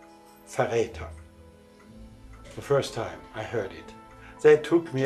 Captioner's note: speaking in German